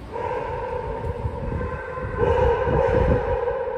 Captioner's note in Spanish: Muchos filurais ladrando